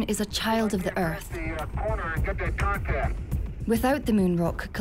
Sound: radio transmission

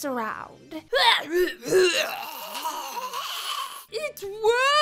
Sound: coughs excessively

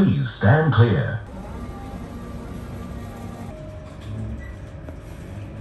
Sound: engine revving

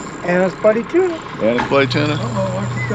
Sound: reel cranking

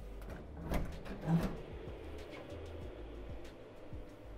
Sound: doors opening

